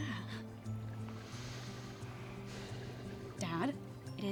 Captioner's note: sighs